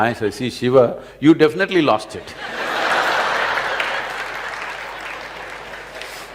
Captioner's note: laughter